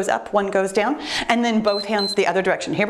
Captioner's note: timer beeps